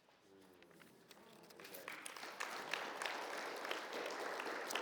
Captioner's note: audience applauds